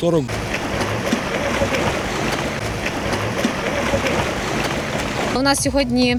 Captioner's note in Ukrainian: шум води